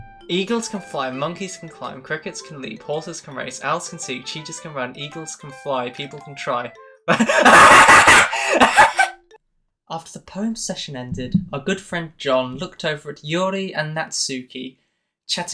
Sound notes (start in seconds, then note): 0.2 reading poem; 8.3 deep inhale